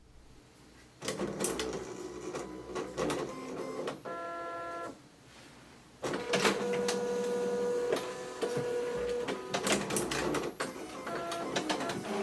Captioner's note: multiple Printer Noises